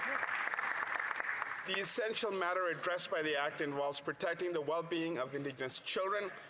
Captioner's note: some Applause